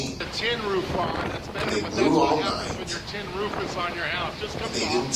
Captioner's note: TV in background